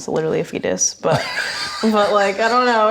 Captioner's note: laughing